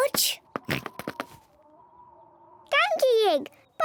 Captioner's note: oinks